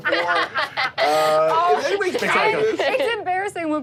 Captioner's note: all laughing